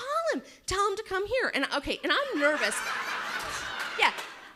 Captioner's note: audience laughs